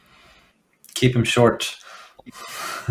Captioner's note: laughs